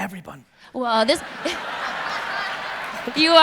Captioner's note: audience laughs